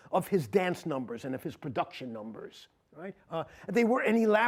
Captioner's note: none